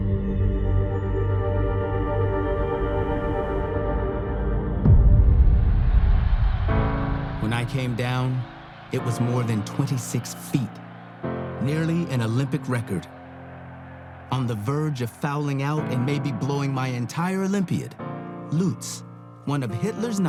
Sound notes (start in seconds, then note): 4.1 cheers and applause